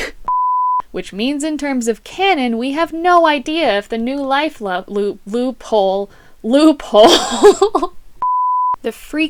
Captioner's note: laughter